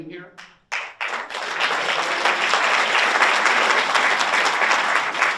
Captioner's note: audience applauds